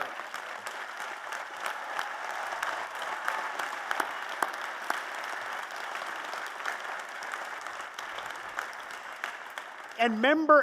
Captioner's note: applause